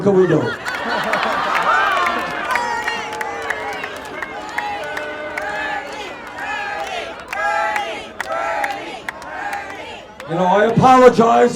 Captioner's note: Audience chants: Bernie!